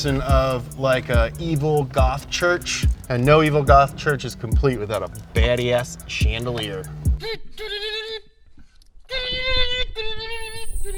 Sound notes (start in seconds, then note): 7.6 humming